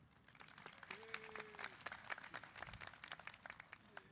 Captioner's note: applause